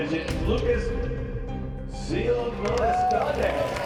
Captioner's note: spanish; cheering and applause